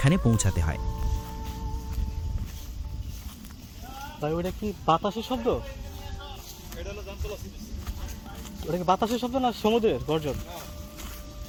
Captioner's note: local Speech